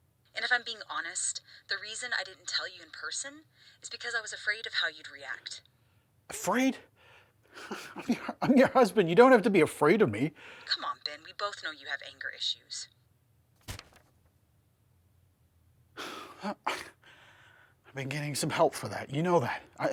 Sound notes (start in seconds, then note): 10.7 on phone; 16.0 sighs